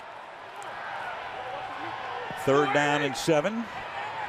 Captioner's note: crowd cheering